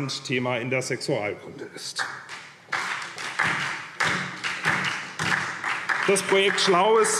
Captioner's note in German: Beifall SPD und vereinzelt DIE LINKE